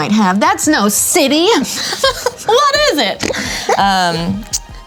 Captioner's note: laughs